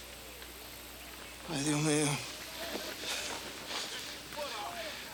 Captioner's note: Crecencio speaks Spanish